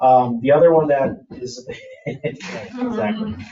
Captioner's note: members laughing